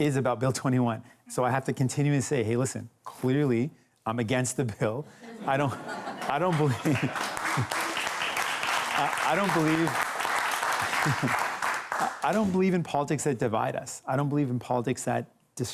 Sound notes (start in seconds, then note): 7.2 laughter; 7.9 applause